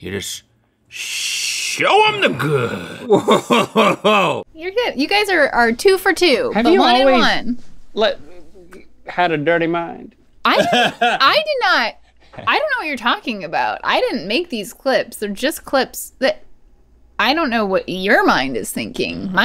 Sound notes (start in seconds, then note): 2.9 Rhett laughs; 10.5 Rhett laughs